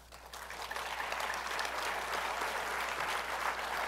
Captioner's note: applause